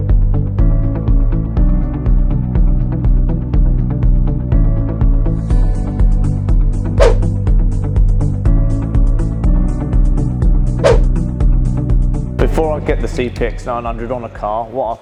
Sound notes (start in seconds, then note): 0.3 upbeat music; 7.3 letters whooshing